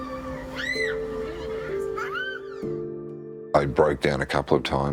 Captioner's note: solemn music; child laughing